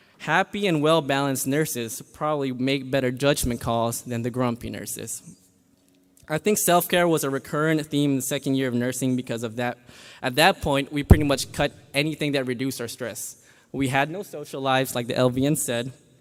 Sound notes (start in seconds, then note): none